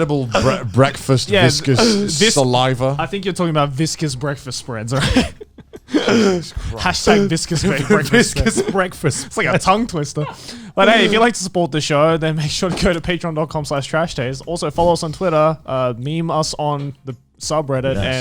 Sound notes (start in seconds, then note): 4.9 laughs